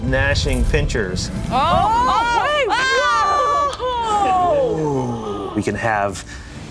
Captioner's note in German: Spielerschreie; Gruppe stöhnt